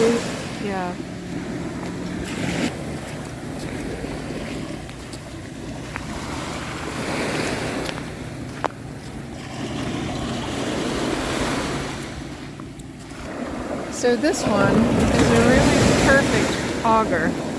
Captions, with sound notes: Yeah. (surf roars) (feet crunch on beach) So this one is a really perfect auger.